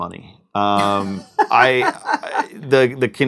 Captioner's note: laughs